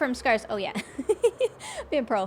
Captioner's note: laughs